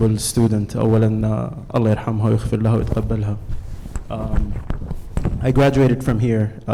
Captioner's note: speaks Arabic